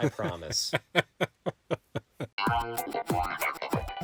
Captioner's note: laughing; upbeat music